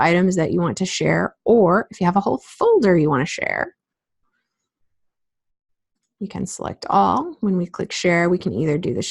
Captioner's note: click